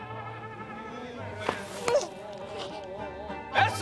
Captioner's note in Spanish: Sollozos